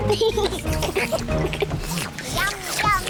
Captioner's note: all slurp